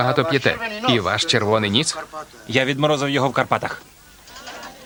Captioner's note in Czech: ruch a smích na dvoře